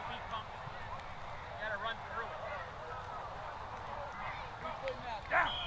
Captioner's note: Coach gives orders, crowd cheers; blows Whistle